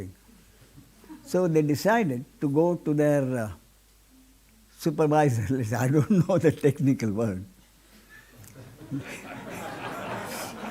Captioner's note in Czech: smích